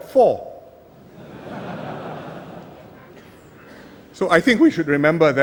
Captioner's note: laughter